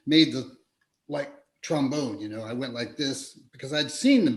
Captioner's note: mimics trombone playing